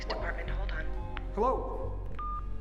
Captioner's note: beep